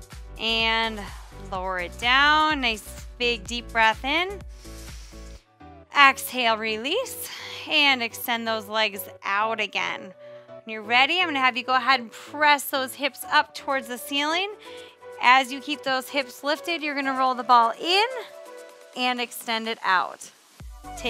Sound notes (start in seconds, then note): 4.5 inhales deeply